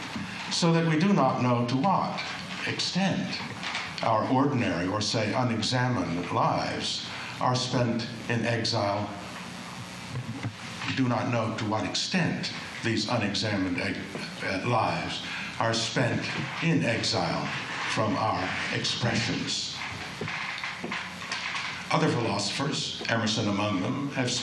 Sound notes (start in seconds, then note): none